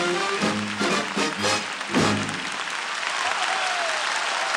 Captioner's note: cheering and applause